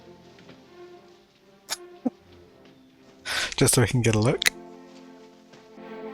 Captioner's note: chuckling